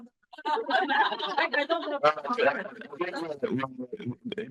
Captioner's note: all laughing